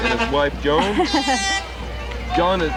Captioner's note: chuckles